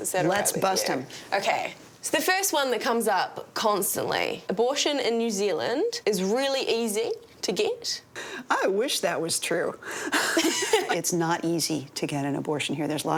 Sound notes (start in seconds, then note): 10.1 both laugh